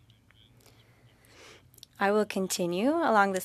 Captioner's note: speaking French